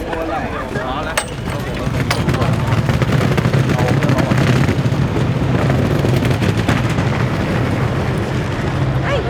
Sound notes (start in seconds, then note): 2.2 wheel-rolling; 4.7 sound of traffic